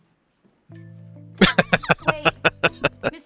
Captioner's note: laughing